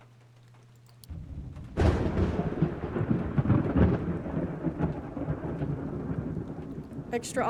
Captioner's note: thunder